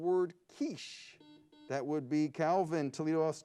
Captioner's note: buzzer beeps